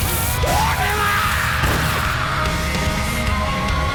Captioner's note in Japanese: 爆発音; バンド演奏